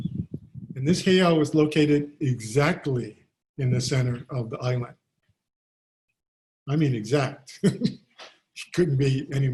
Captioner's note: laughs